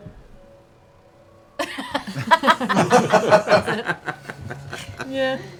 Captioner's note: laughter